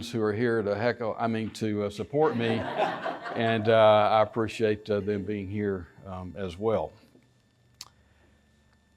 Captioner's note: laughter